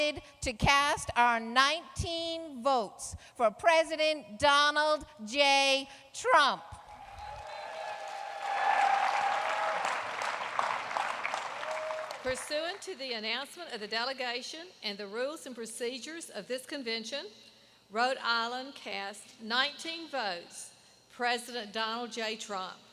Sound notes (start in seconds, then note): 10.6 applause